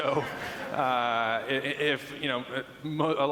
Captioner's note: laughing